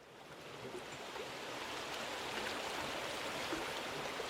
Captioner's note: water tricking